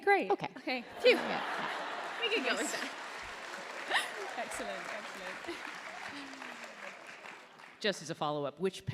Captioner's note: applause